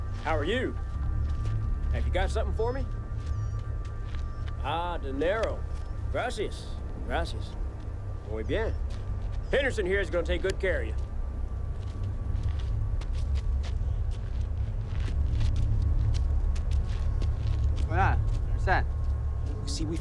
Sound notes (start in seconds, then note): 6.7 speaks Spanish; 18.1 drug runner speaks Spanish